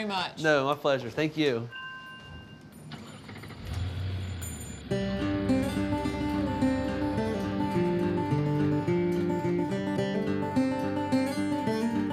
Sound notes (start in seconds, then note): 1.7 bell tinkling; 4.9 bluegrass music